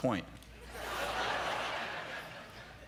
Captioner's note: laughter